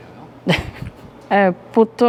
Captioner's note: Laughs